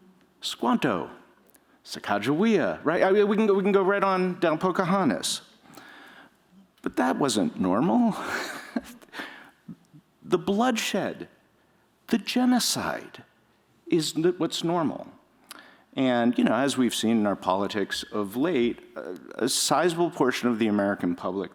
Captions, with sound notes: Squanto, Sacagawea, right? We can go right on down Pocahontas. But that wasn't normal. [chuckles] The bloodshed, the genocide is what's normal. And as we've seen in our politics of late, a sizable portion of the American public